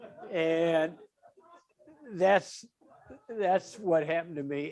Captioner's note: audience laughing